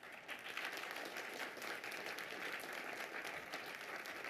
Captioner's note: audience clapping